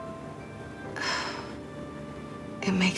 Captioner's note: sighs